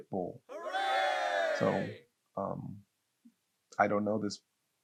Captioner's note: cheering